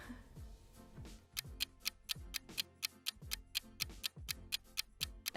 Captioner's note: clock ticking